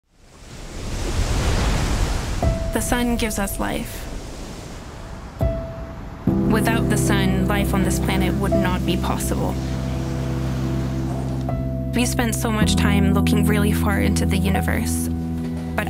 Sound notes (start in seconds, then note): 0.3 waves crashing